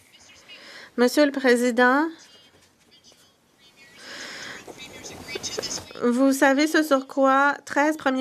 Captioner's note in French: voix de l'interprète